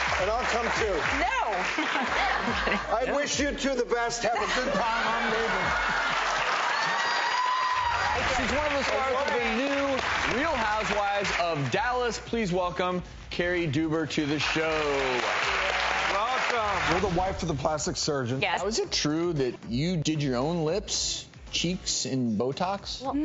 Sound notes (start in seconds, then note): 0.0 applause; 1.6 laughs; 6.9 cheers; 14.2 applause